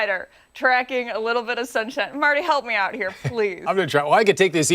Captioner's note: laughter